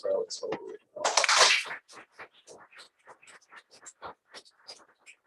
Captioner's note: applause